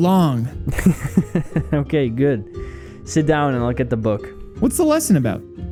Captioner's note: chuckles